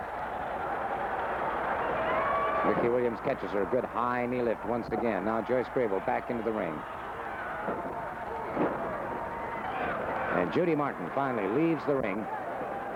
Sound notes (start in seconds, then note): 0.7 crowd cheering; 7.4 crowd cheering; 8.5 mat thuds